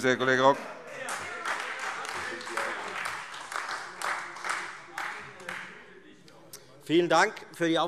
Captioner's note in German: Beifall Freie Demokraten, SPD und DIE LINKE